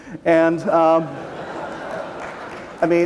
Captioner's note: laughter; applause